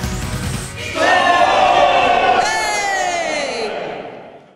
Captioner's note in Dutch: enthousiaste yell